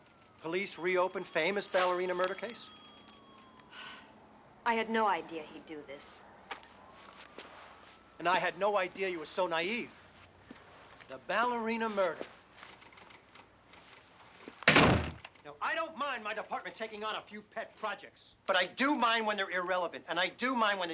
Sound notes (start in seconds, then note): 3.7 sighs; 14.6 slams door